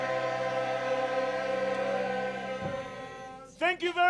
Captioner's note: audience applause